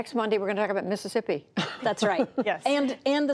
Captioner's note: laughter